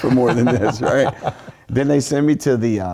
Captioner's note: laugh